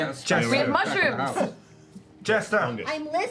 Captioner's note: shouting